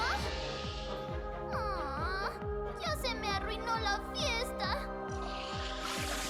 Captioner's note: groan; whoosh